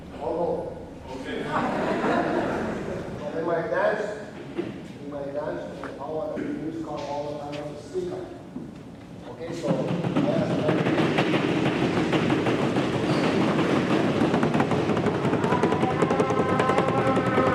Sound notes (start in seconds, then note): 1.3 laughter; 9.6 audience drums on their tables, as he makes a moose call and dances